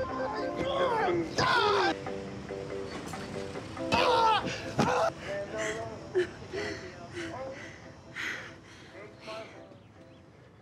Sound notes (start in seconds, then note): 0.5 Rufus yelling; 6.1 Jane laughs